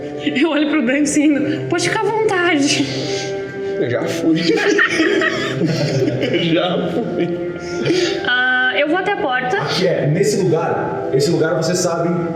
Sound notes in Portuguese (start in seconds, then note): 4.2 Risadas